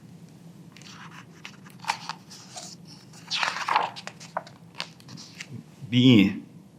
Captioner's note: pages rustling